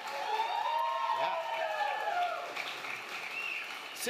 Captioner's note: applause